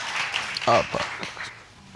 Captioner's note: voice breaking